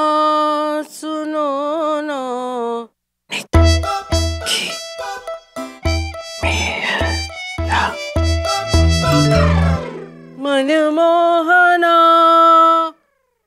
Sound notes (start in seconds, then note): 9.0 phone beeps; 10.4 singing